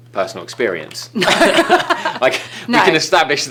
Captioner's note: laughing